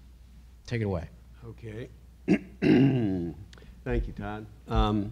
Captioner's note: clears throat